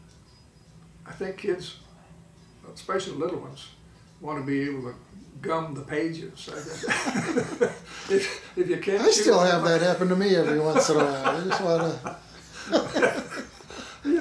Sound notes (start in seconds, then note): 6.5 laughing